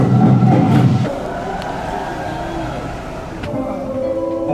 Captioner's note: sound of audience cheering